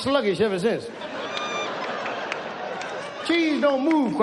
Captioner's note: audience laughs